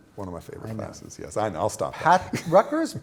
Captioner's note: laughter